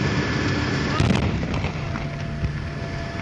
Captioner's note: explosion